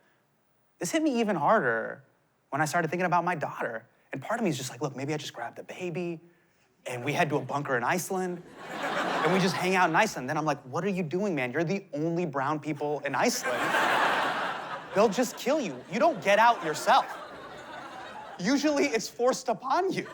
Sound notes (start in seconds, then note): 13.3 laughter